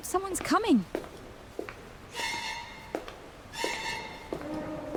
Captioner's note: footsteps